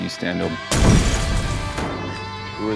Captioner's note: fire explosion